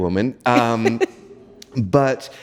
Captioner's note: giggles